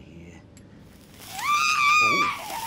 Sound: shrieks

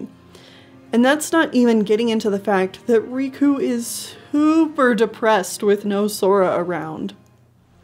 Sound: depressed

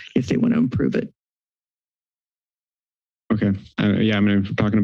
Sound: silence

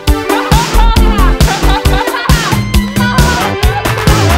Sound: laughing

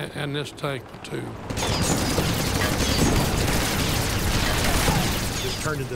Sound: rapid gunfire exploding; cannon shots exploding

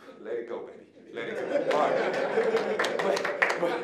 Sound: audience laughing; applause

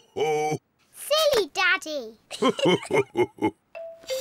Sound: both laugh

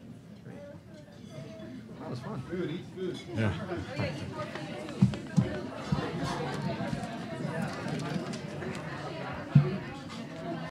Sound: background chatter

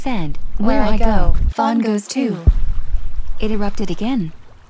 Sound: Michelle &Nathalie in unison

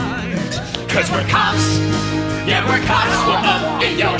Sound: yelling

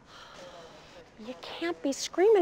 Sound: Darlene sighs

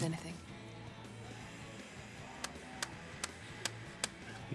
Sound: tapping

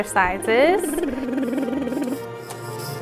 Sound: blowing Raspberries

